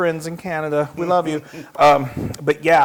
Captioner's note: laugh